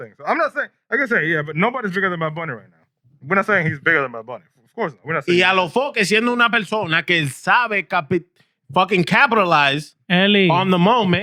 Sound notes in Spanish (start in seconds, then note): 4.7 Hablando en idioma extranjero